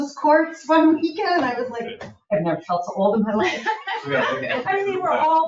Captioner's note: laughs